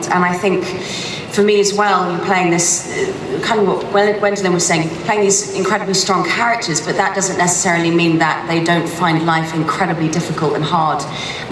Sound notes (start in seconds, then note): none